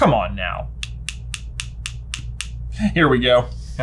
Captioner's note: pen clacks